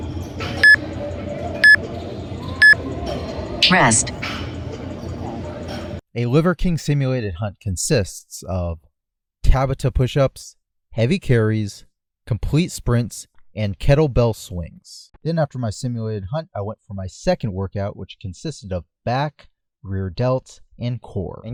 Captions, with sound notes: (electronic device beeps) - [Electronic Voice] Rest - A liver king simulated hunt consists of Tabata pushups, heavy carries, complete sprints, and kettle bell swings. Then after my simulated hunt, I went for my second workout, which consisted of back, rear delts, and core.